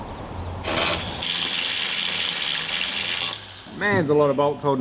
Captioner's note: power tool whizzes